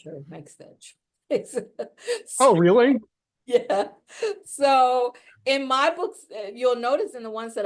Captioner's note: laughs